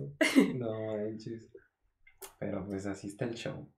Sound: laughter

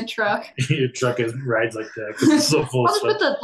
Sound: faintly speaking

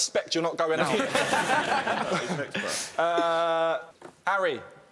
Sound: laughing

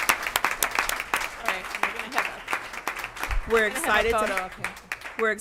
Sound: applause and overlapping voices

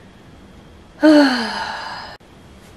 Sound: heavy sigh

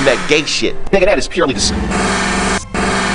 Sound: weird distorted sound

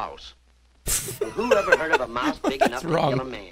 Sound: laughs

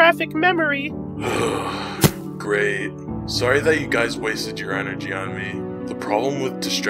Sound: groan

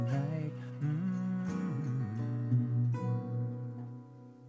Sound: humming

